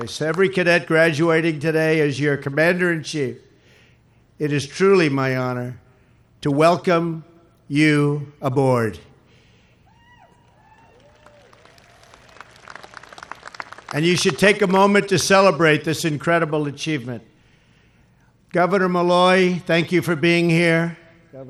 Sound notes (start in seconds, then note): 8.5 applause